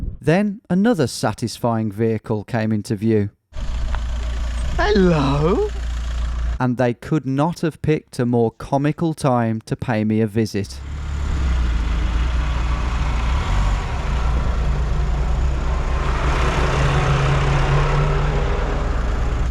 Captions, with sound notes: Then, another satisfying vehicle came into view. (van rumbling) Hello! And they could not have picked a more comical time to pay me a visit. (tractor roaring)